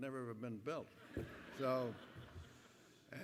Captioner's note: laughter